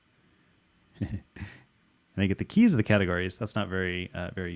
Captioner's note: laughs